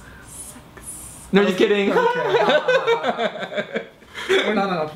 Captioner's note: laughs